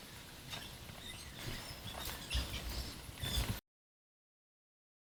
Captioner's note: scraping noises